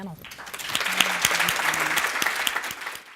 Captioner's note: applause